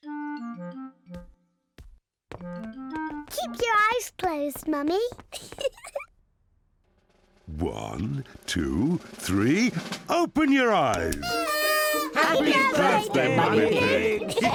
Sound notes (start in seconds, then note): 5.3 giggles; 11.2 party horns blowing